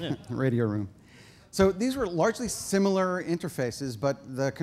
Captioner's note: laughter